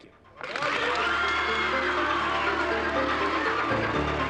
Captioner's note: tense music; audience applauding